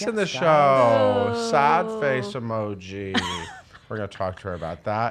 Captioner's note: chuckles